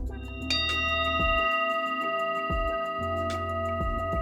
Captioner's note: Tibetan bell ringing